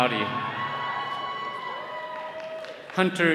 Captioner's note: attendees cheering